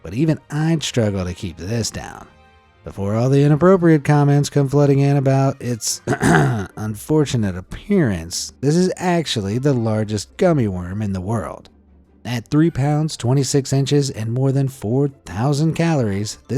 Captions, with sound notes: but even I'd struggle to keep this down. Before all the inappropriate comments come flooding in about its (clears throat) unfortunate appearance, this is actually the largest gummy worm in the world. At 3 lbs, 26 inches, and more than 4,000 calories,